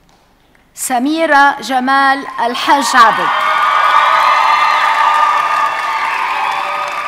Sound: audience cheers and applauds

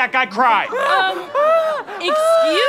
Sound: returns to high-pitched wailing

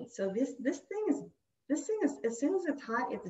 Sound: none

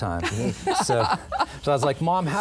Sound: laughter

